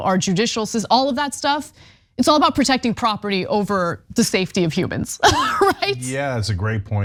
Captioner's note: laugh